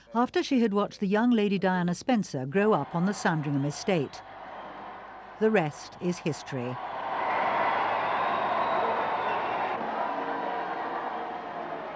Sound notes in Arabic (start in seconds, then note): 7.2 هتافات الحشود